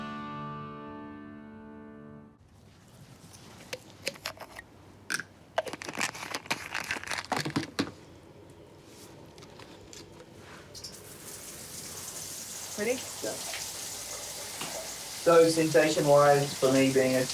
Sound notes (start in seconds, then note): 5.6 pills rattle; 10.7 shower runs